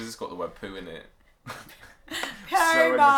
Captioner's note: laughter